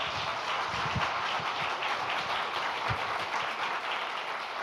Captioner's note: audience applauding